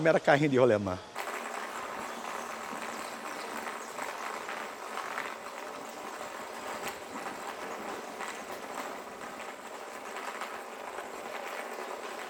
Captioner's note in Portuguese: atrito das rodas no chão